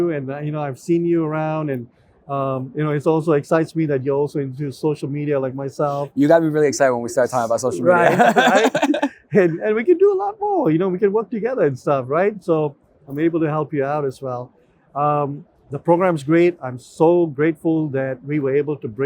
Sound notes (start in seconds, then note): 7.3 laughs